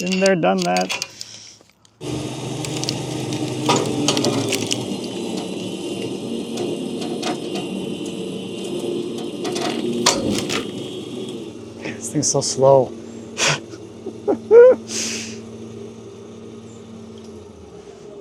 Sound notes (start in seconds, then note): 2.2 machinery humming; 14.0 laughs; 14.9 machinery humming